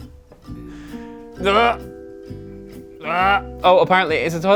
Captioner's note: retches